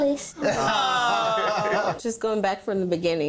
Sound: all exclaiming

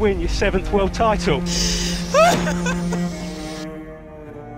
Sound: crying

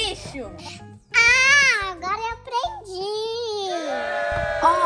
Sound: cheering

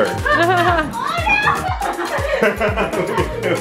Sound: laughs

